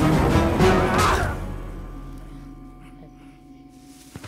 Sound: grunting; thudding; tense instrumental music

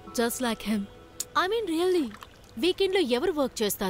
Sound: clicks tongue

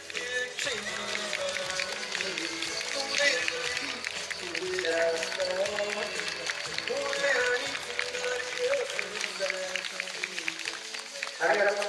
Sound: applause

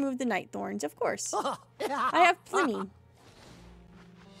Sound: Merlin Laughs

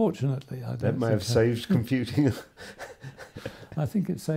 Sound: laughs

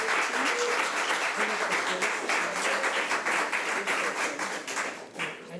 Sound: panel members chattering

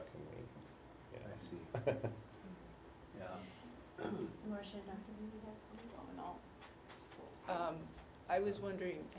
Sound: laugh

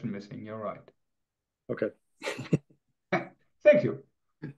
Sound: chuckles

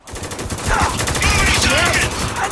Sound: machine gun fire

